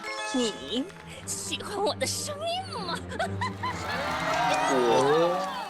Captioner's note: Witch voice